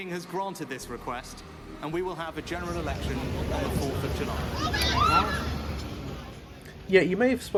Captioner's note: scream